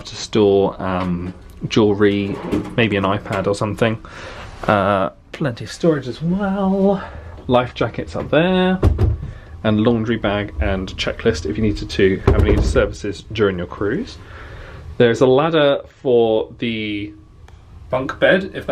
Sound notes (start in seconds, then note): none